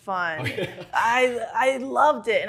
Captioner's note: laughing